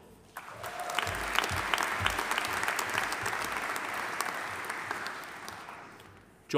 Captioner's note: audience applauding; audience cheering